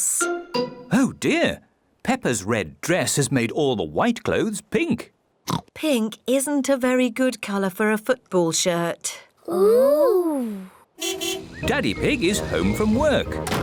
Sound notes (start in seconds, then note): 5.1 oinks; 11.0 car horn toots; 13.4 oinks